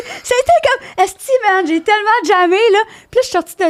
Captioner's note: in french